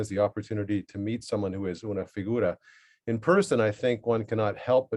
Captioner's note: spanish